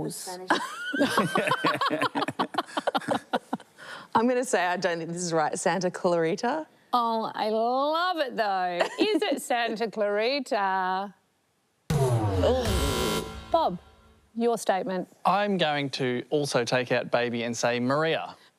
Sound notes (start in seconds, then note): 0.9 laughs; 12.4 buzz!